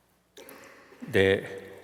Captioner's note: foreign Language